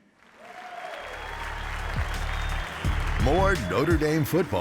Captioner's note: applause